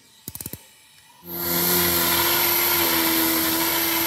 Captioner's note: grinding noise